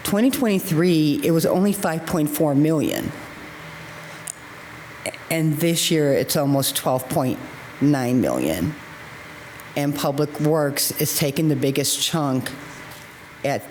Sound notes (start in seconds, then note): none